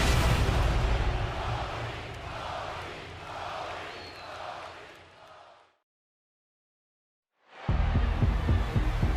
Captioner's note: crowd chants "cody"